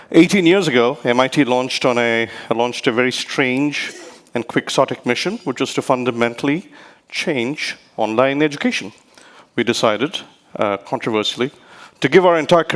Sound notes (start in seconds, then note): 4.5 speaks rapidly